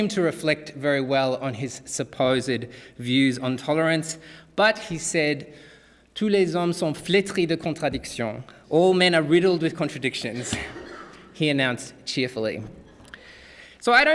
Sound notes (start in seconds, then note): 6.3 speaking french